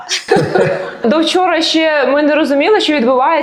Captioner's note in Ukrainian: сміх